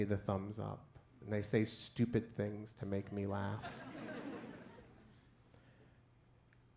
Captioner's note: crowd laughs